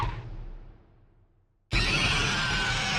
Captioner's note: shrieking